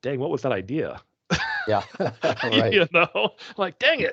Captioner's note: chuckling